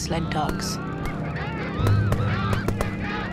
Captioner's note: shouting, gunshots, dogs yelping